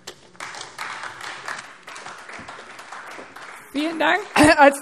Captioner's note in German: Beifall AfD